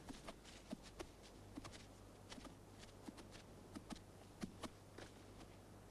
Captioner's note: none